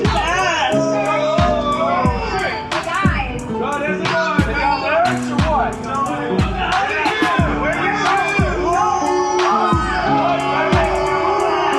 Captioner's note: crowd heckles mercilessly